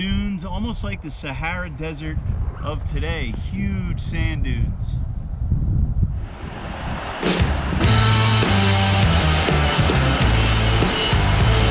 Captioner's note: water rushing; rock music